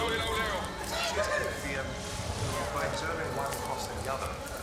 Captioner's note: people chattering